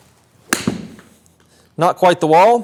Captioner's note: golf ball pings